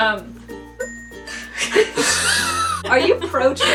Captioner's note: laughing